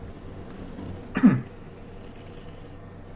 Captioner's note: coughs